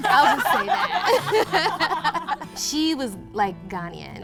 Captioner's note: laughs